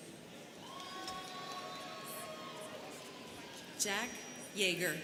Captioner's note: students cheering